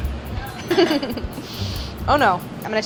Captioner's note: giggles